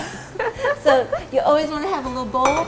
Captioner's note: both laugh